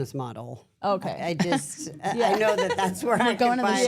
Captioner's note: laugh